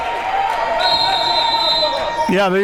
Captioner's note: whistle blows